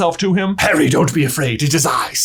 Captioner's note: in a gravely voice